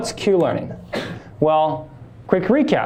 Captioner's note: student sneezes